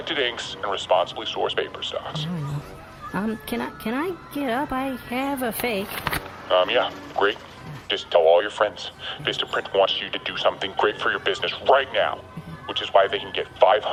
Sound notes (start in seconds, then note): 5.6 paper rustling